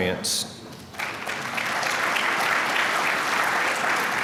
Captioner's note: applause